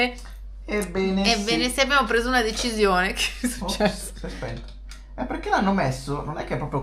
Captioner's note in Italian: risate